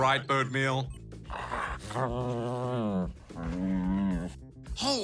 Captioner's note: whines